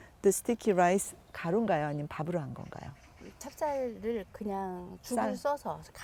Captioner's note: speaking Korean